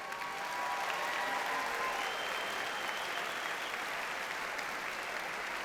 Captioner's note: audience cheers and applauds